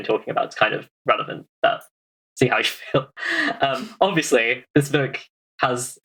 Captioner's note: laughing